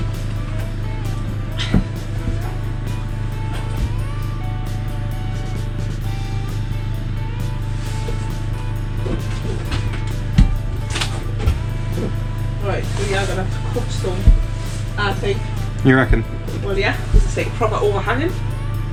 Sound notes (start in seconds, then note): 14.2 In a Geordie accent